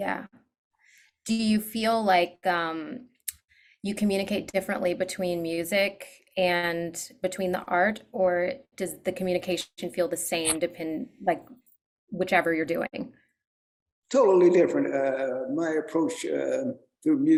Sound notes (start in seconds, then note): none